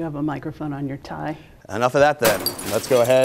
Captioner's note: crash